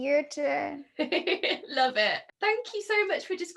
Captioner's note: laughing